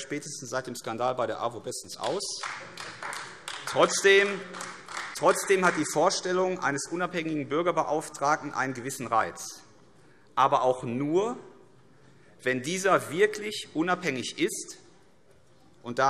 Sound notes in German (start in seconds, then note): 2.0 Beifall AfD